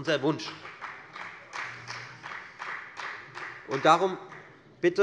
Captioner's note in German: Beifall der Abg